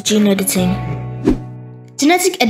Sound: whoosh

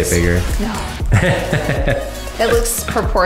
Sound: man laughing

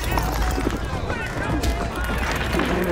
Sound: glass shatters, men yell

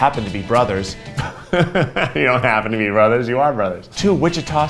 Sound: laughs

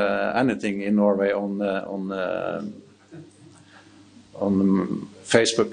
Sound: audience chuckling

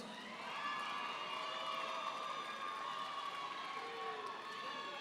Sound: audience applauding

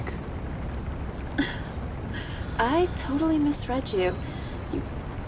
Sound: chuckles

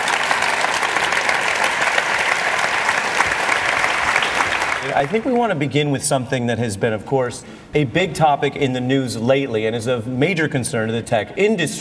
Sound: applause

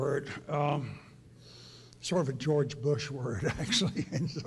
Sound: laughs

